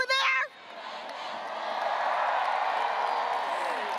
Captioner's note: graduates cheering